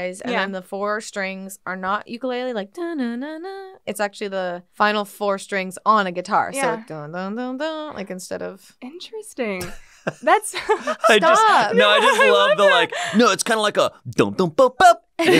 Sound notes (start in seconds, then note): 2.5 humming; 6.9 humming; 10.5 laughs; 14.5 beatboxing